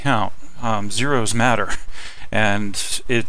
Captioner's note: laughing